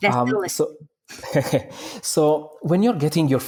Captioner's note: laughing